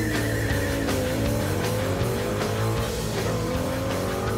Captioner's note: engine revving; tires squealing